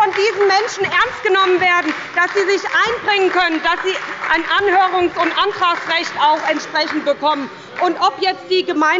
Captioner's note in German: Beifall bei der SPD – Zurufe von der CDU